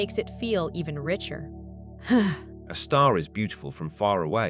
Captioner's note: sigh